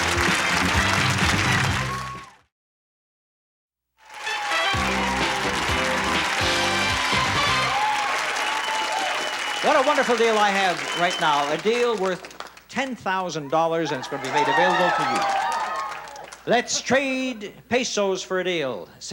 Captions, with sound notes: (lively pop music) (applause) What a wonderful deal I have right now. A deal worth $10,000 and it's gonna be made available to you. "Let's trade pesos for a deal,"